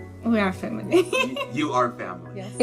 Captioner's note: laughs